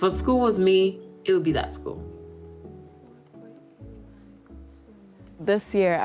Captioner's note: speaking quietly to herself